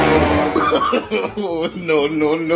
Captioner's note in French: Rires